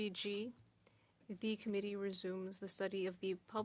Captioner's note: speaking French